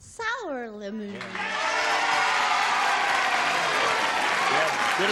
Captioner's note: cheering and applause